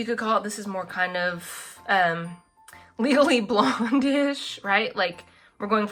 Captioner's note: laughs